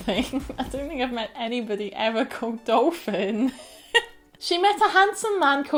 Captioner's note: laughter